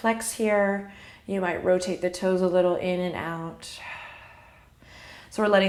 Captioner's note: exhale